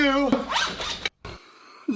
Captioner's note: zipper